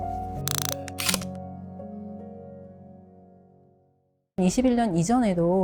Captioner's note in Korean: 다이얼 소리